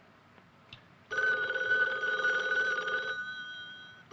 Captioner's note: phone buzzing